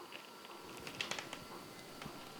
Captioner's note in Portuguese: Abrir de porta